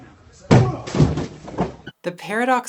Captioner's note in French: grogne